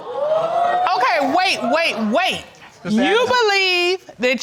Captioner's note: crowd whooping